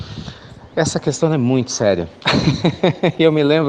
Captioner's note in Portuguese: Risos